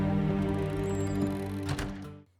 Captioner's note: cabin door squeaking